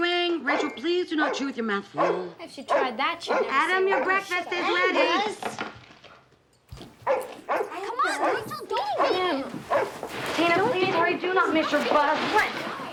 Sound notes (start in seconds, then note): 0.4 angus barking; 7.0 angus barks